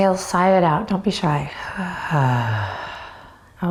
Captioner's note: sighs audibly